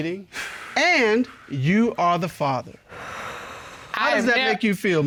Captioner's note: breathes deeply